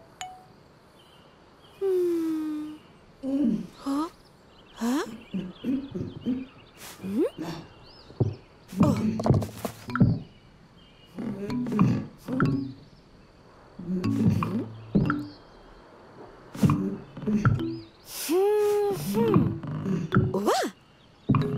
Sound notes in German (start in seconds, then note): 1.4 traurig; 2.6 Schildkröte ächzt; 5.5 Ächzen, Schritte; 8.0 Rumpeln; 11.2 Knarren, Ächzen; 16.6 Ächzen, Schritte; 19.0 Knarren